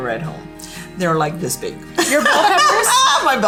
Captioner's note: laughs